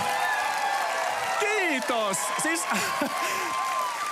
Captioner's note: applause, cheering